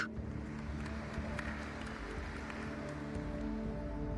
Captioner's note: audience applauds